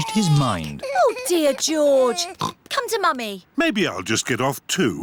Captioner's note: oinks